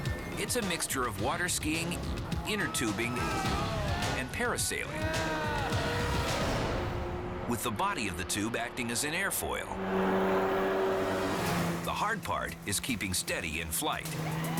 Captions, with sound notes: It is a mixture of water skiing, inner tubing, and parasailing. With the body of the tube acting as an air foil. (boat engine revving) The hard part is keeping steady in flight.